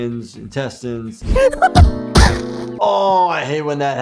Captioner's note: toothy grunting